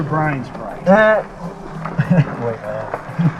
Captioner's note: Bryan mimics buzzer sound